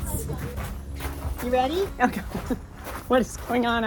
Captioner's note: laughs